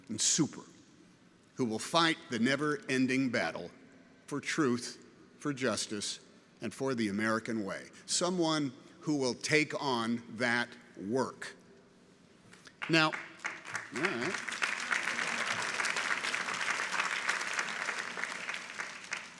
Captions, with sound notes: and super who will fight the never ending battle for truth, for justice and for the American way. Someone who will take on that work. (people clapping) Now, all right.